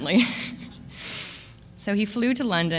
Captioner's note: laughs